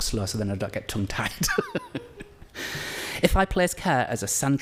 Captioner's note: laughs